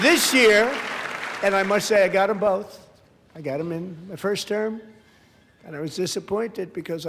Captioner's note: applause